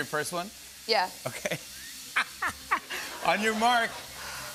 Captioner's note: laughs